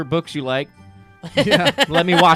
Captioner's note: laughing